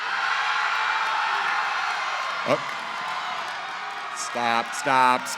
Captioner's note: cheering